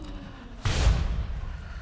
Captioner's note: audience gasps